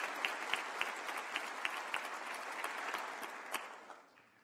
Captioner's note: applause